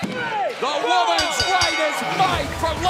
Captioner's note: bell ringing